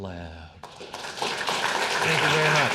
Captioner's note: audience applauding